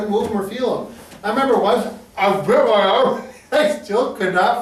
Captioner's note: laughs